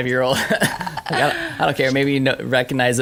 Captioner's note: laughter